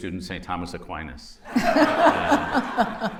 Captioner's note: laughter